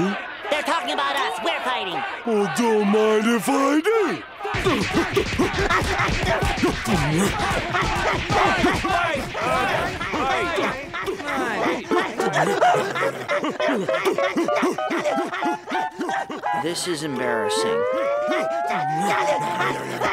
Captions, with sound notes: They're talking about us, we're fighting! Well, don't mind if I do. Fight! Fight! Fight. [grunting] [grunting] This is embarrassing. [grunting]